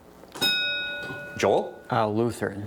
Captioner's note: bell dings